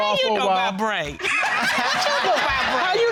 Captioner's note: laughs